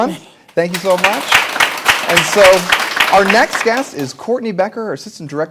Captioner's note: applause